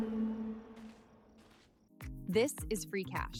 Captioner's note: footsteps